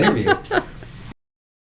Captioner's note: laughter